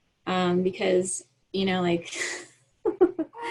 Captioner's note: laughs